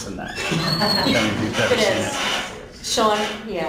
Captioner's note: laughing